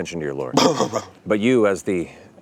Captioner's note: george blusters/coughs